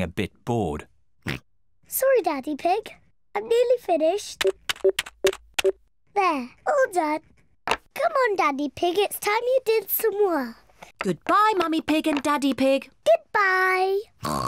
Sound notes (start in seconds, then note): 0.2 oinks; 3.8 beeping; 14.2 oinks